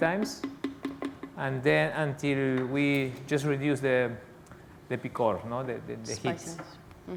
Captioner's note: spanish